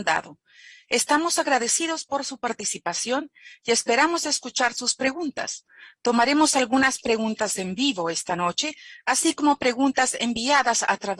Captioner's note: speaking spanish